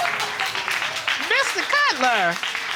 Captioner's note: audience clapping